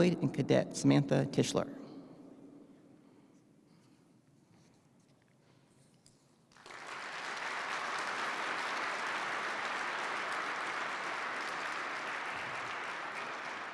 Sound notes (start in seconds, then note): 6.5 participants clap